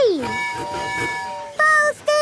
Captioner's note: tooting